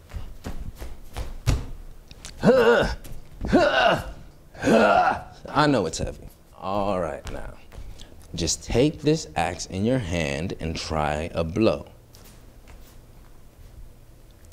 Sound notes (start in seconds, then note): 4.6 grunting